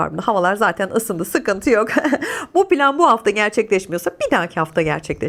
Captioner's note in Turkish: kahkaha